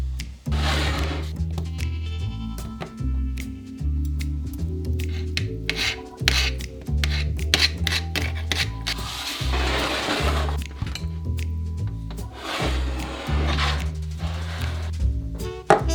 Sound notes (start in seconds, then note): 5.0 forks scrapping pan